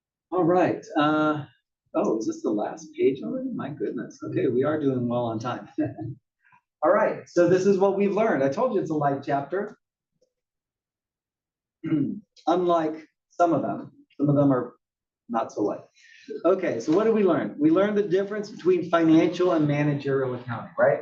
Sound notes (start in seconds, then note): 6.3 laugh